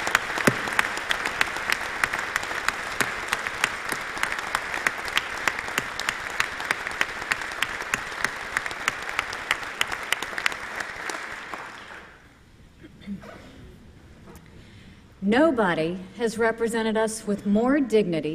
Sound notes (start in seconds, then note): 5.0 applause